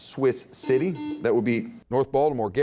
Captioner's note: buzzing